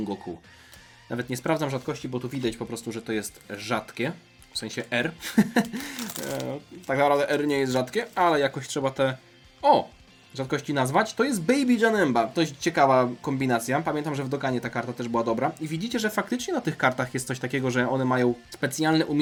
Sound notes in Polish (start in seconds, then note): 5.2 śmiech